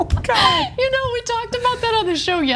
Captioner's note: laugh